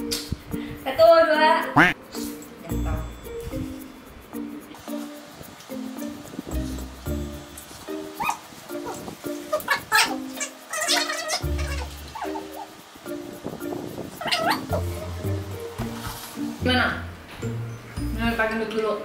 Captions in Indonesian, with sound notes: 1, 2... *Quack* How was it?